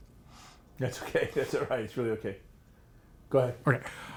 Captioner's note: laughs